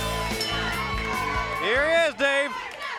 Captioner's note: bell dings